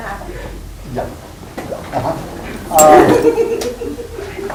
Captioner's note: laughing